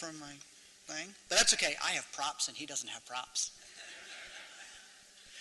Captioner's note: laughter